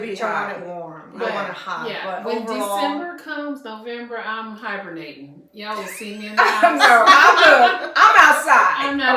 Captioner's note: laughter